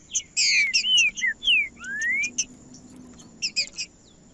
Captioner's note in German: trinca ferro cantando